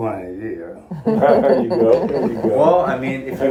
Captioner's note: laughing